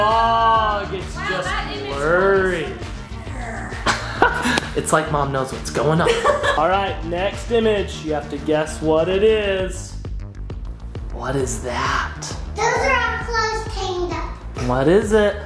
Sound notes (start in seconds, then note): 2.8 laughs; 5.9 laughing